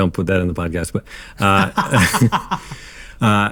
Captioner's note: laughing